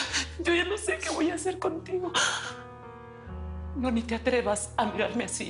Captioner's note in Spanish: Solloza